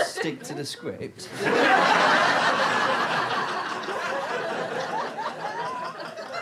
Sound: audience laughter

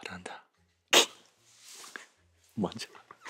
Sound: laughs

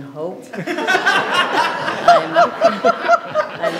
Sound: audience laughs

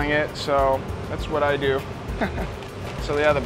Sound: chuckles

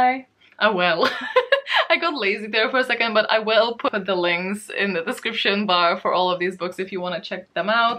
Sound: laughs

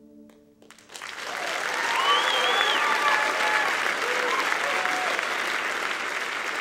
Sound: audience cheering and applauding

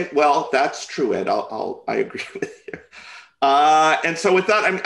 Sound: chuckles

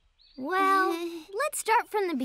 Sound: chuckles

